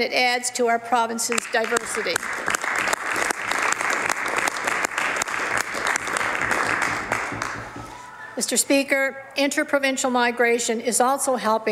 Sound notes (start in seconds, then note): 7.6 some Applause